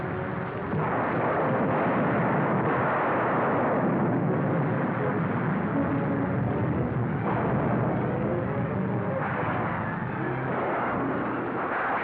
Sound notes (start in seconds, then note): 0.0 ominous music; 0.0 rain patters hard; 0.6 suspenseful music; 0.7 lightning cracks; 6.0 sounds of rain and lightning; 7.1 suspenseful music